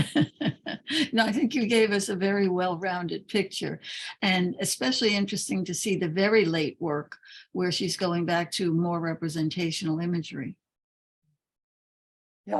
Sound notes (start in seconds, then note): 0.0 laughs